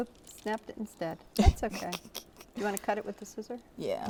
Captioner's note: chuckles